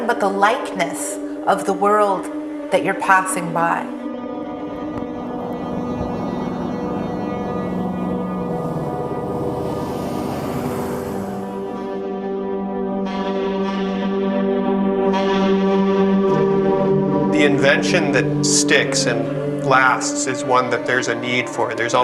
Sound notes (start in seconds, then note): 4.8 container truck moving